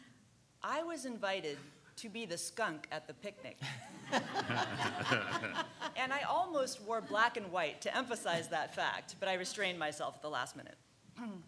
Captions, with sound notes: I was invited to be the skunk at the picnic. (laughing) And I almost wore black and white to emphasize that fact, but I restrained myself at the last minute.